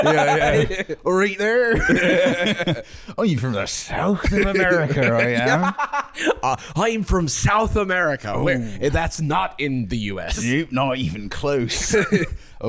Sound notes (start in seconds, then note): 1.1 gloucestershire accent